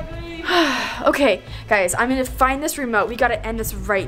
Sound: sighs

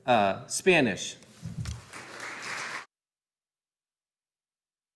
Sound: audience applauding

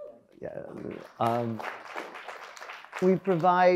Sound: audience applauds

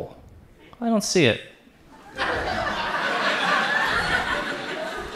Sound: audience laughs

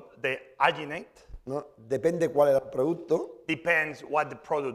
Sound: speaking spanish

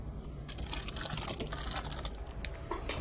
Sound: nylon rustling

